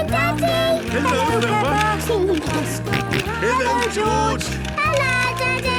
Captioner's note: George giggling and snorting